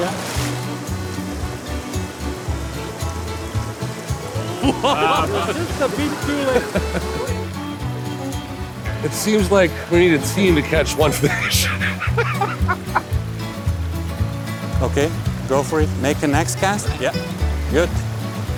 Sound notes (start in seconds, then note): 0.1 bright music; 10.5 laughs